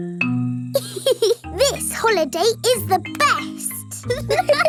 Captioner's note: giggles; laughing